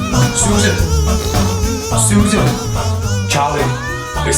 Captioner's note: thundering sound; farting